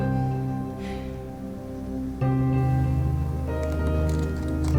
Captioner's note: Yuen sighing